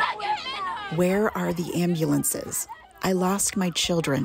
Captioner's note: through translator